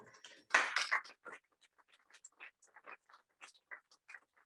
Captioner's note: applause